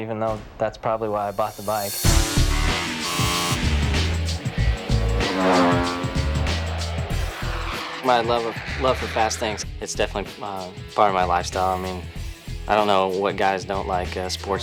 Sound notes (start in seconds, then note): 2.2 upbeat music; 3.5 motorbike engine roaring; 7.5 aircraft engine roaring